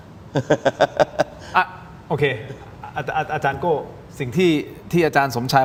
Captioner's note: laughter